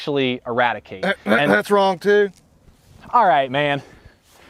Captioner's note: coughs